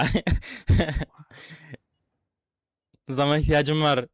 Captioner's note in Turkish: kahkaha